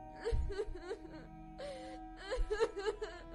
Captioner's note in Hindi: रोने की आवाज़